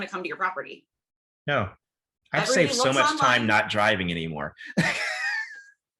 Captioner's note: laughs